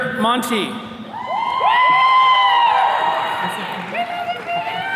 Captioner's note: attendees cheering